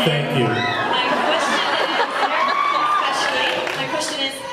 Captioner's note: laughs, cheers; laughs